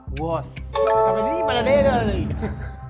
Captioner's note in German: Brabbeln, Lachen